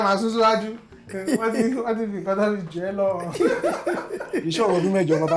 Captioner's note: laughs